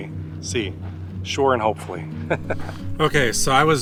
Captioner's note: laughs